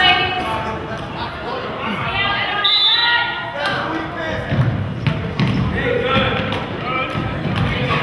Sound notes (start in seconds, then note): 2.6 whistle blows